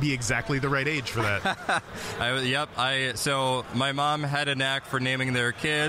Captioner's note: laughing